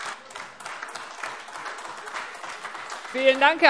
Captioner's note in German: Beifall AfD